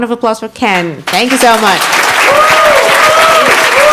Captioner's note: audience applauds